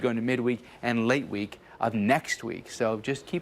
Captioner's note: none